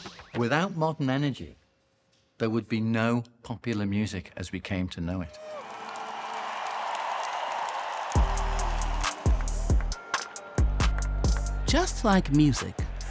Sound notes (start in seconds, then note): 5.2 audience cheering; 8.1 slow upbeat music